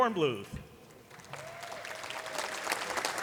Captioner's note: applause